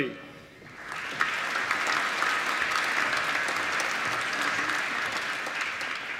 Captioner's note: applause